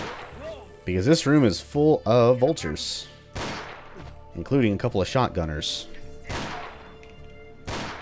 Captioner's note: Colt shot; bang bang